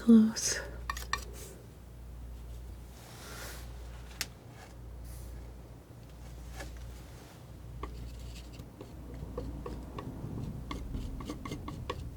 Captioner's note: tapping